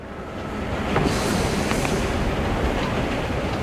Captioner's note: train rumbling past